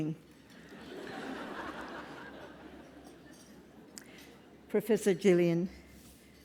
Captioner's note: laugh